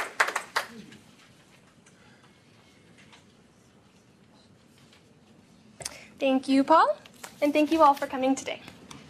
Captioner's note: �applause�